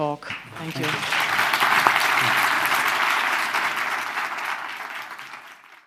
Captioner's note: applause